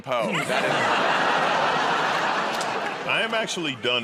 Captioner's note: laughter